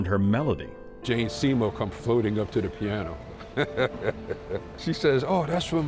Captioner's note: laughs